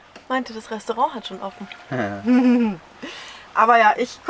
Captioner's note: laughs